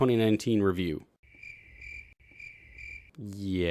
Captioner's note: crickets